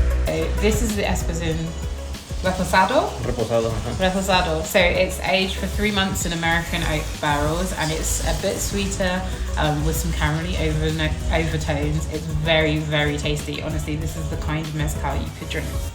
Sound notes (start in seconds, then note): 2.1 speaking foreign language